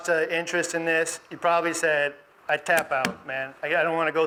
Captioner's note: tapping